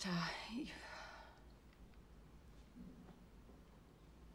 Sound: sighs

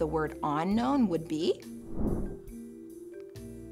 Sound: air whooshing

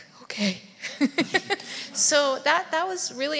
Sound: laughs

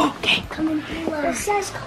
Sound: gasping

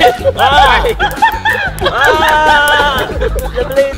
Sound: screaming

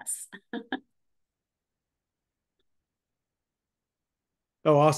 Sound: laughing

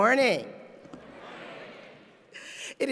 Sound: crowd

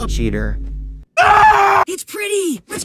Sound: blood curdling scream

